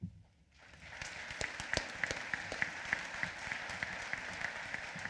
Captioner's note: applause